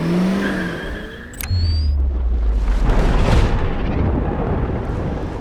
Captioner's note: car engine revving; thunder cracking